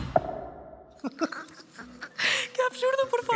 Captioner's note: they laugh